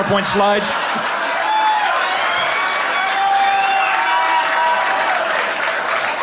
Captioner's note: laughter, applause